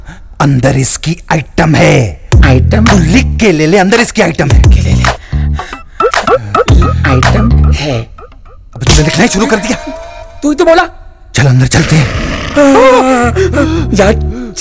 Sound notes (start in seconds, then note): 12.2 Whimpering